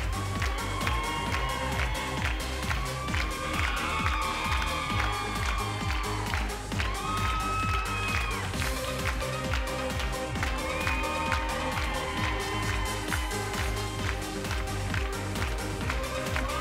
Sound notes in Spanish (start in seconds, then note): 0.0 Gritos y exclamaciones